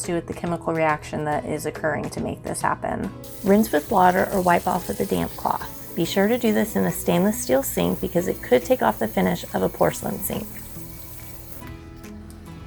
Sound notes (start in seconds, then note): 3.2 water running